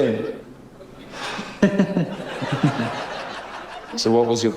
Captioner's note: giggles; sighs